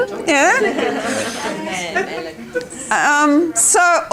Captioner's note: participant chatter